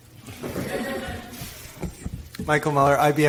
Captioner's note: audience laughs